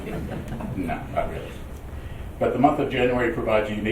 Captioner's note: laughing